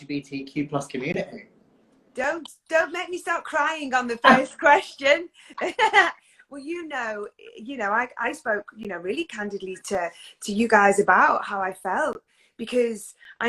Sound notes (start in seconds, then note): 4.2 laughs; 6.8 laughs